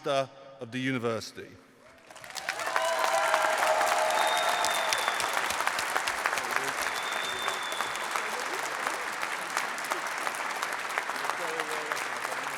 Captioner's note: applause